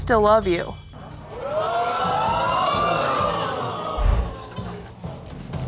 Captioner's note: audience exclaiming